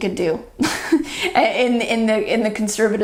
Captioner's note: chuckles